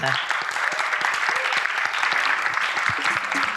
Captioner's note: audience applauding; upbeat music